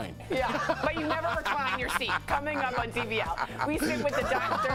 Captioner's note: laughter